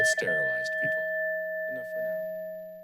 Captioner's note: bell dinging